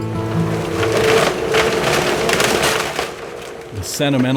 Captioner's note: guitar music fades; wood crunching